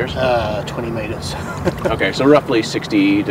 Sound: chuckles

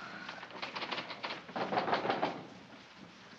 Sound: knocking on door

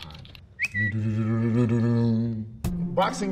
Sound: bird Tweets

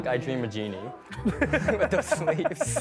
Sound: laughter

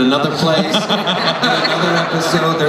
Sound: laughter

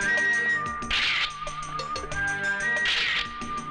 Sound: camera Clicks

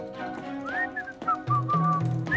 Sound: whistling

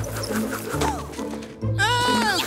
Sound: soundbite of rope reeling, landing

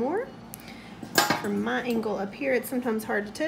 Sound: clanging

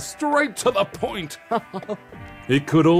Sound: laughs

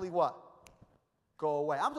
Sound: snaps fingers

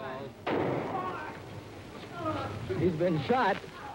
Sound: gun shot

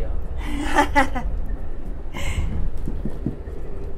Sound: laughs

